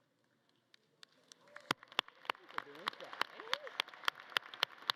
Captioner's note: audience clapping